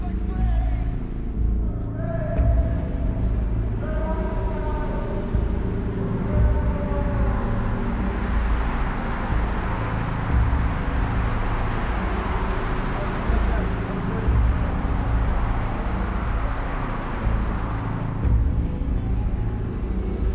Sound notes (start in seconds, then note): 1.9 ominous music; 8.7 faint traffic noise; 8.7 ominous music